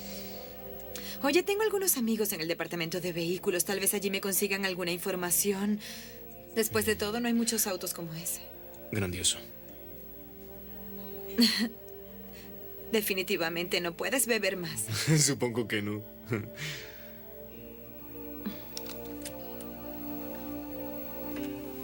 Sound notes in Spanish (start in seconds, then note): 16.2 risos; 18.2 música instrumental suave